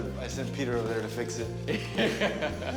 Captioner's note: laughs